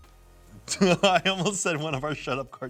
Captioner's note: laughs